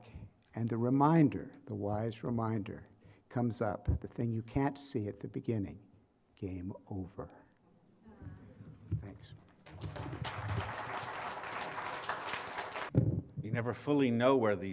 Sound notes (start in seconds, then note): 9.4 applause